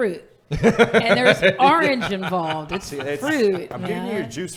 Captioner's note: laughing